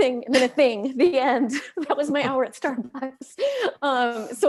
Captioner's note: laughs